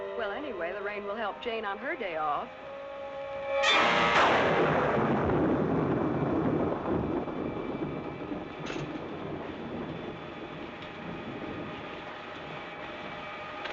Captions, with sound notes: Well, anyway, the rain will help Jane on her day off. [Thunderclap]